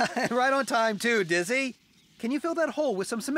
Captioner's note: chuckles